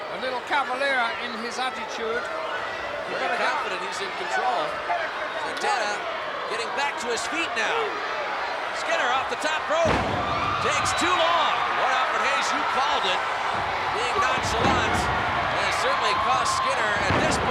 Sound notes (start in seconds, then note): 9.9 footsteps plodding; 12.3 body thudding